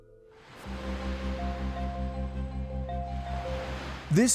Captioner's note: bright pensive music; waves lapping